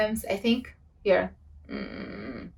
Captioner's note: grumbling